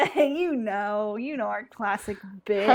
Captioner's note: laughs